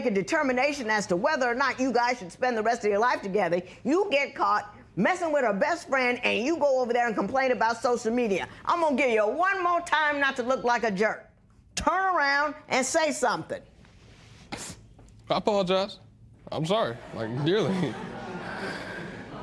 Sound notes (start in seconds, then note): 14.5 sniffles; 17.0 laughter